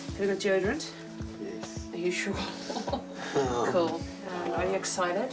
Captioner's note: laughs